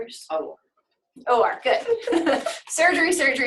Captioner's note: laughs